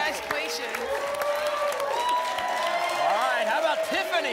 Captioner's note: applause and cheering